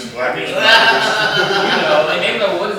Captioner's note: laughter